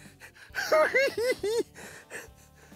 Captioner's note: giggling